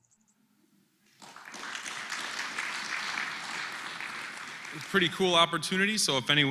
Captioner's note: applause